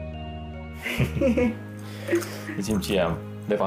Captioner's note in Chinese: 笑聲